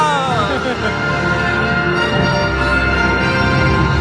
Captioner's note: resolute music; laughs